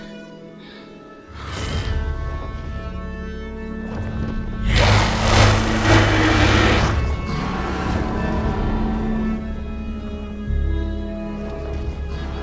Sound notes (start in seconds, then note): 2.6 dragon growls